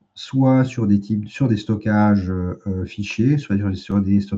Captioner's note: raclement de gorge